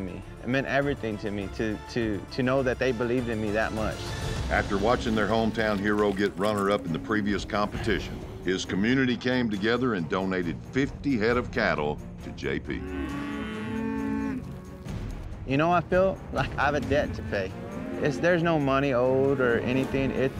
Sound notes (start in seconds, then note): 12.8 cattle moo